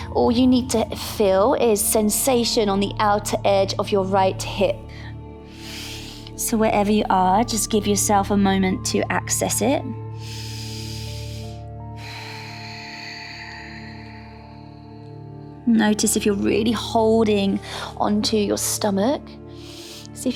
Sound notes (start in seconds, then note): 5.4 inhales; 10.1 inhales; 11.8 exhales; 12.5 calm music